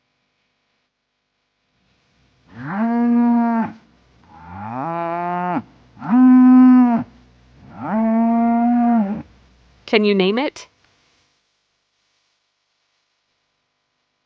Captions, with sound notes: [Animal Sound] Can you name it?